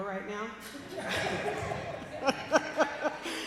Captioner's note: laughter